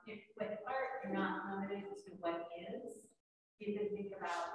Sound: speaks faintly

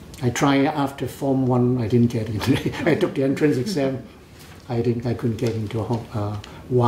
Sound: laughs

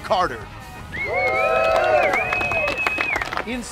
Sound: cheering

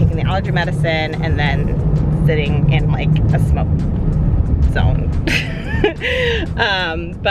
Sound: laughs

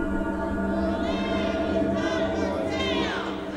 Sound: shouting

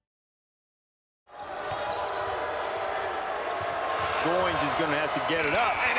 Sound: crowd cheering

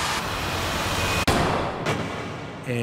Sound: gun fires

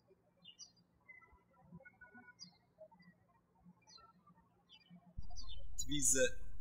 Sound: birds chirping

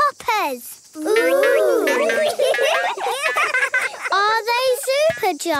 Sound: laughing

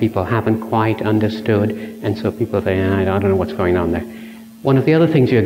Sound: buzzing from microphone

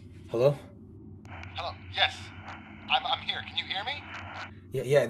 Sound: over walkie

